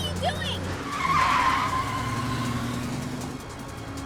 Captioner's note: tires screech